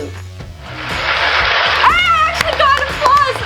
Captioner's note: applause